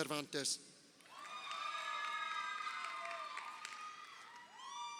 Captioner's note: crowd cheering